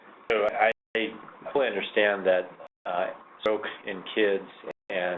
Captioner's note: voiceover